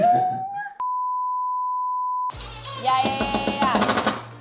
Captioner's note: long beep